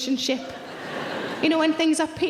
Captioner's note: audience laughing